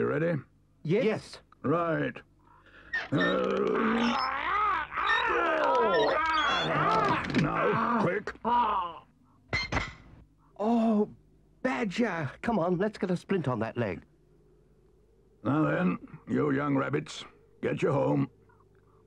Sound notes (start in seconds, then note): 2.8 Chief Weasel groans; 2.9 badger groans; 4.9 trap squeaks; 8.6 Chief Weasel groans; 9.4 trap clangs